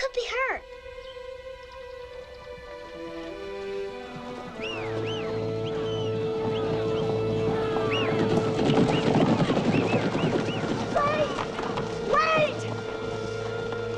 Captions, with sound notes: He could be hurt! (low tense music) (posse whistling) (horses clomping) - Wait! Wait!